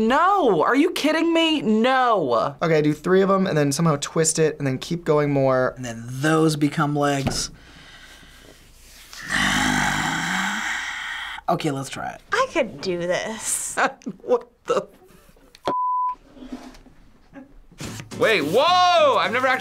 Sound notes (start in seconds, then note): 9.2 sighs; 14.6 laughs